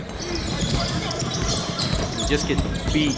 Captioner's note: tennis shoes squeaking